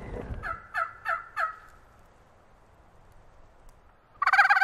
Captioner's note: turkey call